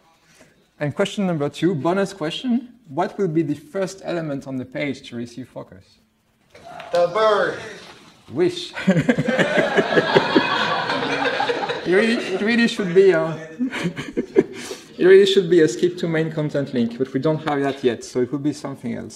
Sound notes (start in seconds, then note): 8.8 laughter; 13.4 laughs